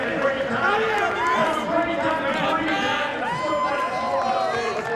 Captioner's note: people shout